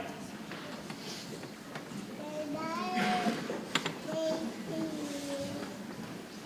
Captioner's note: people chattering softly